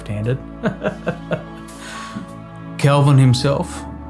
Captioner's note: laughs